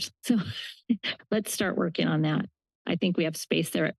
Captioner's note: laugh